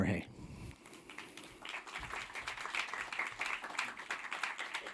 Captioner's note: audience applauding